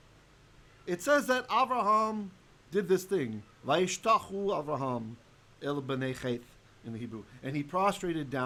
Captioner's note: Hebrew